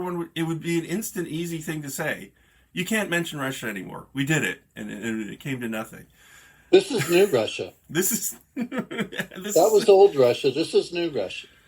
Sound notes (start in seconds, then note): 8.0 laughs